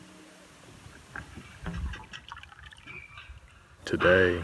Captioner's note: tranquil music; windmill creaking